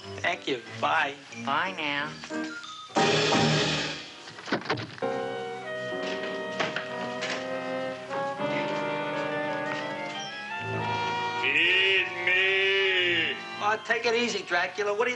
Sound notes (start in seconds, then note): 4.3 door clattering; 4.7 suspenseful music